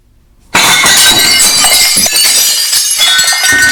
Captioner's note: dishes breaking